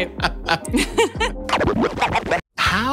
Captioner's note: laughing